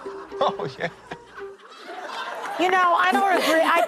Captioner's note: laughing